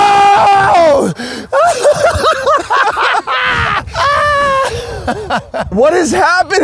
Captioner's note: laughs